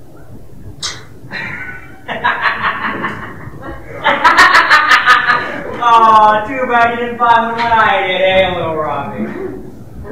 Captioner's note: laughs